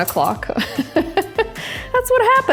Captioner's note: chuckles